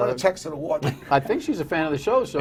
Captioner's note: laughter